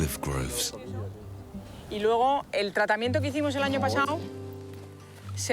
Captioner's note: speaking foreign language